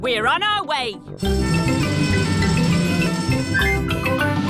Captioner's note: siren wailing